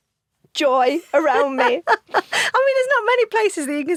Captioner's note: laughs